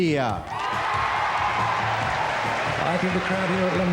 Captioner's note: audience applauding and cheering